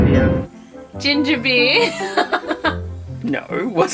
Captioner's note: laughing